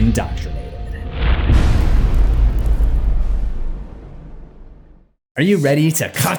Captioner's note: impact